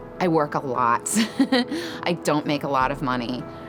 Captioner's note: laughs